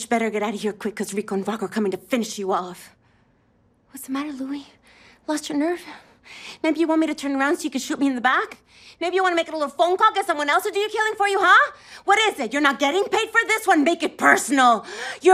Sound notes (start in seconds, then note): none